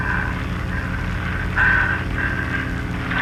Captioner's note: heavy breathing